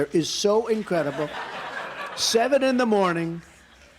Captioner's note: laughter